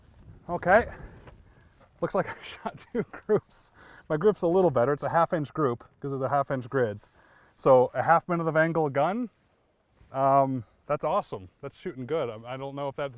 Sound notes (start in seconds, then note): 2.3 laughs